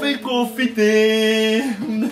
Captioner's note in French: rire gêné